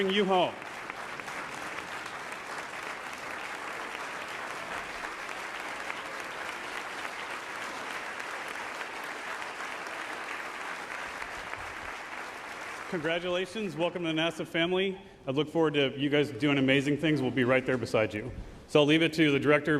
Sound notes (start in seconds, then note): 6.3 applause